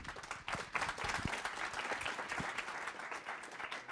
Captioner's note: applause